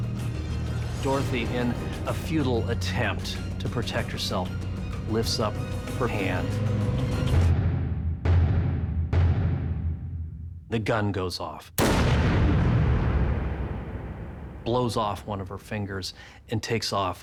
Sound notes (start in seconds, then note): 11.8 gun shot